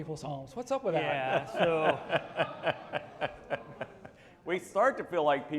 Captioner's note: laughing